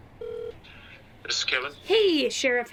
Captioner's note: dial tone purrs